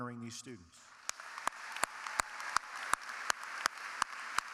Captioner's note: audience applauding